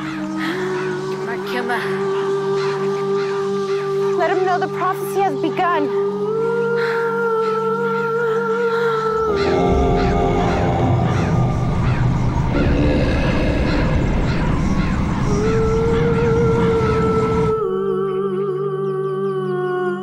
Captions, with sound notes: (speaking foreign language) Let 'em know the prophecy has begun. (dramatic groaning) (somber vocal music) (birds chirping)